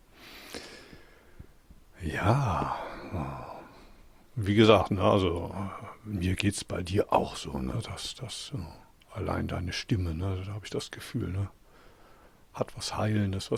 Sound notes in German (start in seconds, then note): 2.0 seufzt